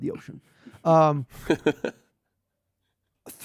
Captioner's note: laughs